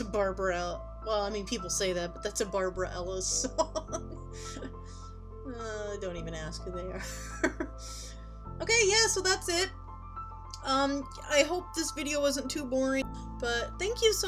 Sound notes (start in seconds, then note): 4.3 chuckling